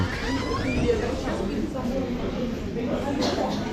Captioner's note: door squeak